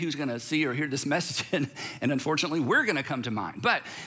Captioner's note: chuckles